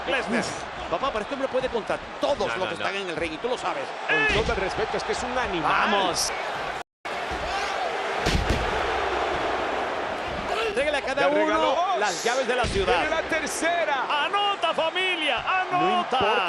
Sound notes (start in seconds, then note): 5.7 applause